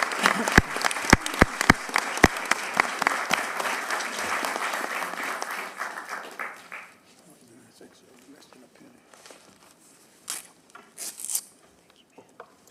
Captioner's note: applause